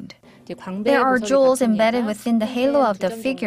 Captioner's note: korean